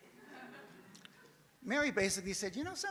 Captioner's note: audience laughs